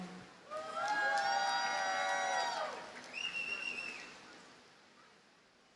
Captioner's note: audience cheers and applauds